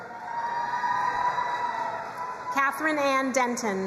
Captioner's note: crowd cheering and applauding